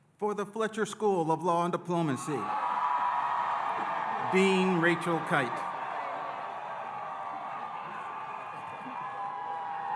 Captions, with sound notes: - For the Fletcher School of Law and Diplomacy, (audience cheering) Dean Rachel Kyte. (audience cheering)